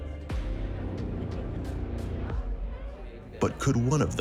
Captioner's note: people chatting